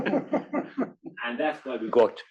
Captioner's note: laugh